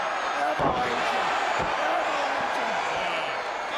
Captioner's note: crowd cheering